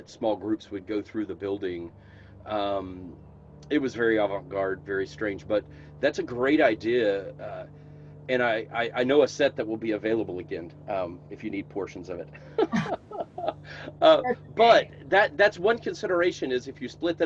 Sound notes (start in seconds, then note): 12.3 laughing